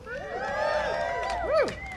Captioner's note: cheering and applause